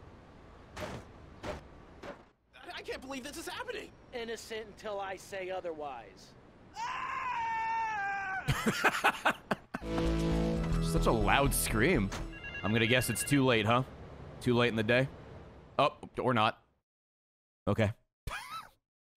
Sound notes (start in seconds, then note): 6.7 screams; 8.4 laughs